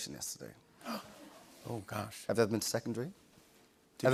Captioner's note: gasps